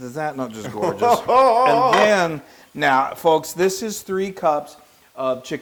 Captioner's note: laugh